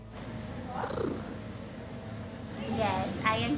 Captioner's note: cat purrs